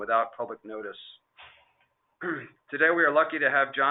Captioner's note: clearing throat